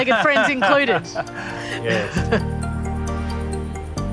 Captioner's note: laughs